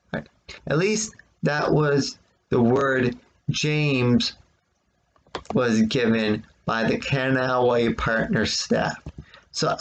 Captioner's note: click of trackpad